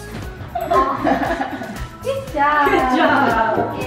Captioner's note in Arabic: يضحك الجميع